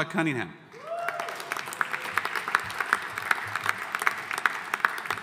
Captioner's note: audience applauding